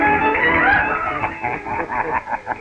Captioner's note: laughter